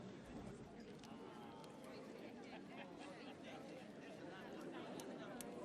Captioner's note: light chattering in the audience